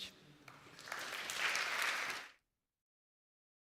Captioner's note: applause